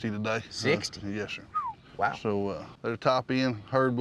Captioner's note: whistles